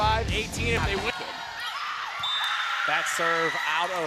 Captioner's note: screaming and cheering